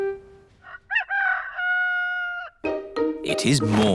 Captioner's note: rooster crowing